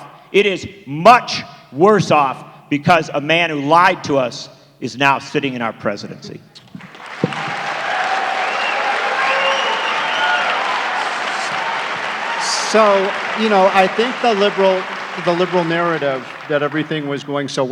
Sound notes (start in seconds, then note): 6.8 applause